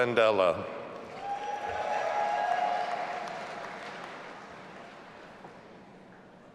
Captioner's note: all applauding and cheering